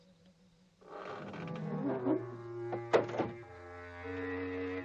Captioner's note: door creaking